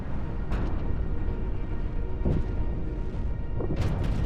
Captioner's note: meteorites exploding